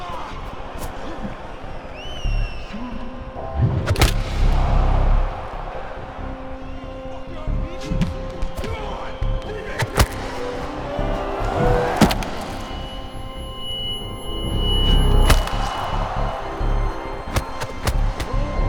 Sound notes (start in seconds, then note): 9.6 hit impact sounds; 12.6 high pitched tone; 15.7 crowd cheering